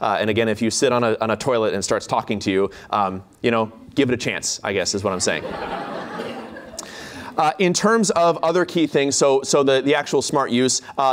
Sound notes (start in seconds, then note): 5.1 laughter